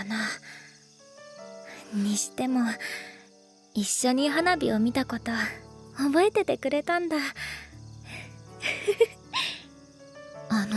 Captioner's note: chuckles